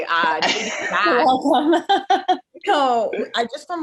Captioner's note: laughs